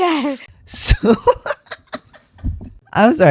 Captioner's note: laughter